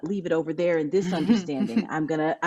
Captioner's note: laughs